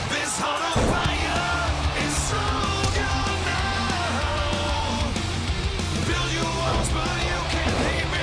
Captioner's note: crowd cheering